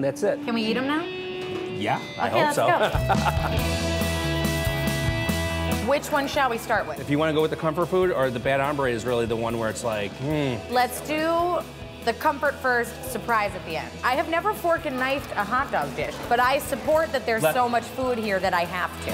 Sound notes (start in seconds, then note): 2.6 laughs